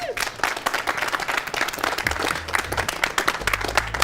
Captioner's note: crowd applauds